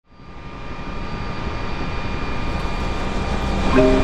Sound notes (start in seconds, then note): 0.0 helicopter whirs